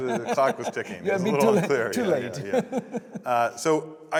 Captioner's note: laughing